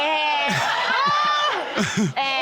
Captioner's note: laughing